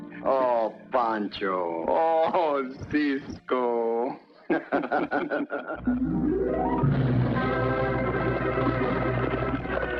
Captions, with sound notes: Oh, Pancho! Oh, Cisco! [ LAUGHTER ] [ LIGHTHEARTED MUSIC ]